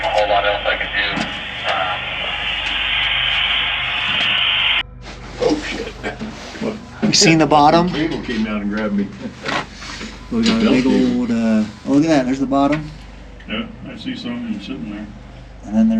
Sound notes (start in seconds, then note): 3.2 radio static; 10.0 group chattering